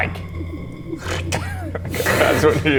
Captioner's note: bad imitation of magical noises